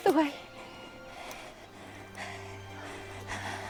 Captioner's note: breathing heavily